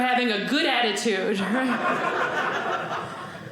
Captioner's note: audience laughing